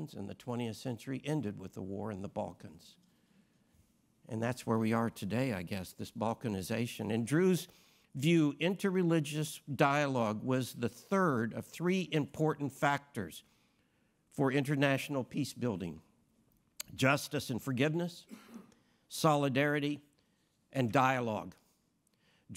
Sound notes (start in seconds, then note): 18.2 attendee coughs